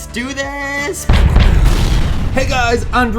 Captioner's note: fireball explodes; gun bangs